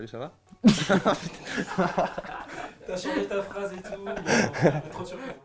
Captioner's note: laughs